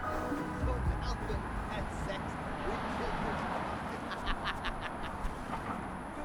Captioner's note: idle chatter